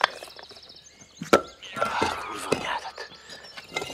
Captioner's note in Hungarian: grunts